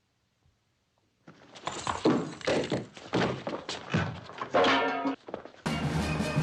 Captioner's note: fight noises; music intensifying